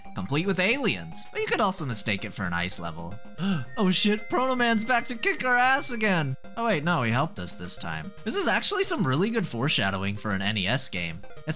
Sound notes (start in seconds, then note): 3.3 gasp; 3.6 whistle plays